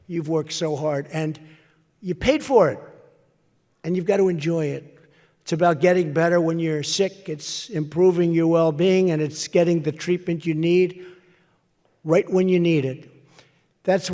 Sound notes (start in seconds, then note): none